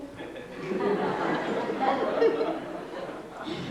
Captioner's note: laughter